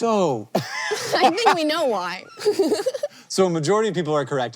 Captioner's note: giggles; HANK wheeze-laughs